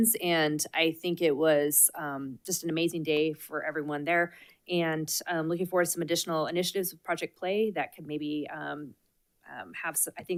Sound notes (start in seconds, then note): none